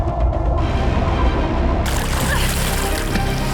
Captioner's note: water bubbling